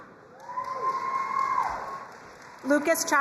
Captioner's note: crowd cheering and applauding